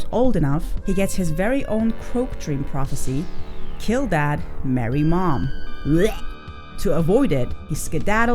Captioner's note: vomit sound